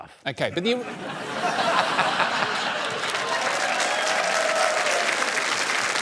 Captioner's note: laughter and applause